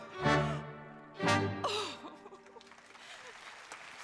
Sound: Ruth sobs; audience applauds

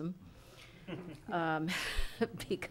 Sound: people chuckling

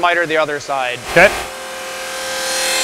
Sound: sound of machine

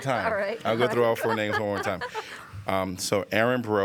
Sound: laughter

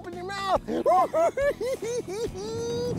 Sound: giggling

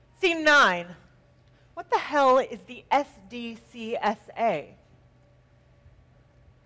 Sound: none

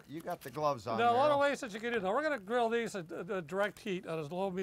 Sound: none

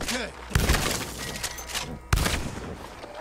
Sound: gunshot

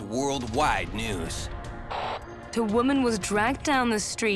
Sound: static crackles; English accent

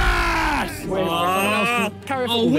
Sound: players groan

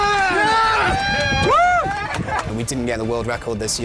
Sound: cheering and applauding

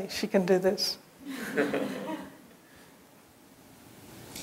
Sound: laughter

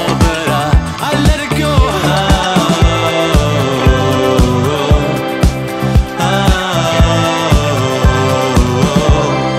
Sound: vocalizing

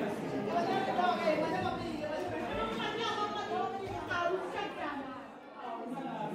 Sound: crowd talking

